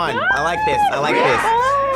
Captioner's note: crowd